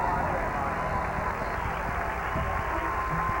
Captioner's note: cheers and applause